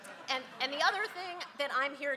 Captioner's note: crowd laughs